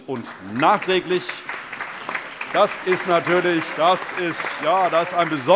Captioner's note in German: Allgemeiner Beifall